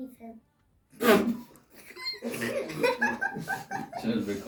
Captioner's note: audience laughs